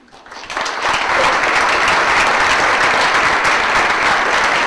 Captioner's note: audience applauds